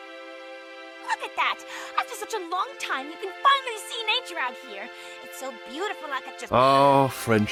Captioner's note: gasps